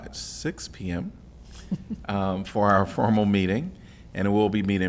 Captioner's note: laughter